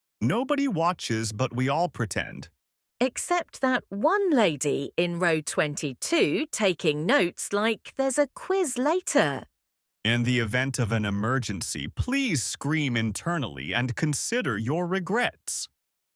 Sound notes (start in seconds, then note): 8.9 mock announcement voice